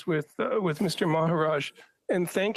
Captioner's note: speaking French